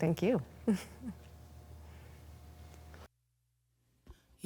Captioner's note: laughs